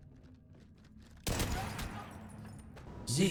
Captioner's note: bang